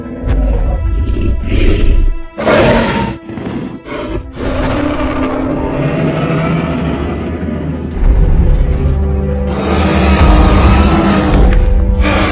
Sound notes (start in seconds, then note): 2.3 dinosaur Roaring; 10.0 growling and stomping sounds